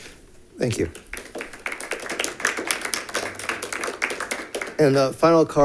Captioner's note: audience clapping